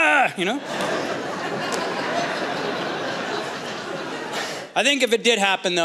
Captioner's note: laughter